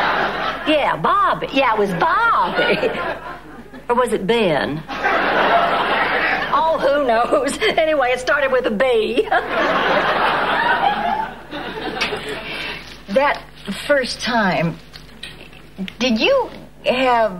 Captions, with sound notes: (audience laughing) Yeah, Bobby, yeah, it was Bobby. (audience laughing) Or was it Ben? All who knows. Anyway, it started with a B. That first time, did you have...